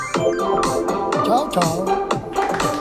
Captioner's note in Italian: Applauso